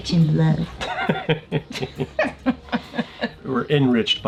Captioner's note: laughing